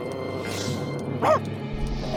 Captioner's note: barks; suspenseful music